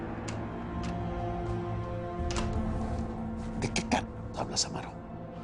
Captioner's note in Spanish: Sonido al abrir y cerrar la puerta